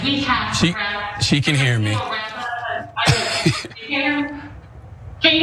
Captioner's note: laugh